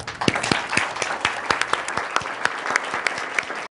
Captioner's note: audience applause